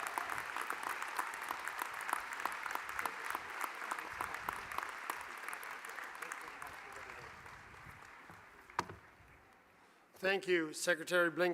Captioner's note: applause